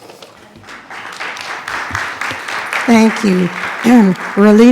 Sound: attendees clapping

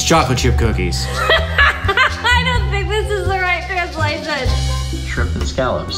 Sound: laughs

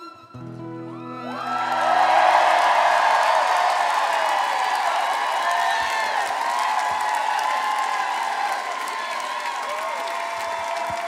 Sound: audience cheering

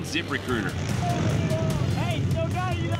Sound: motors rumbling

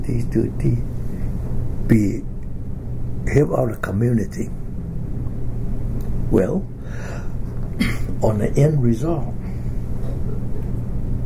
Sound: coughs

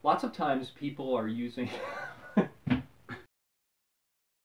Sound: laughs

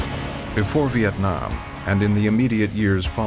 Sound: voiceover

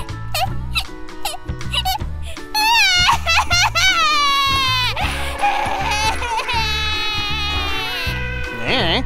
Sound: Sad Lythop noises

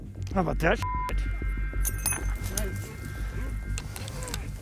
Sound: beep

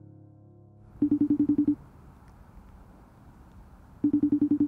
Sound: phone beeping

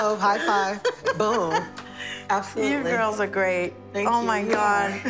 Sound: laughs

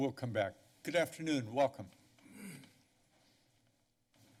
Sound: clears throat

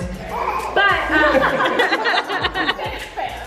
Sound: laughing

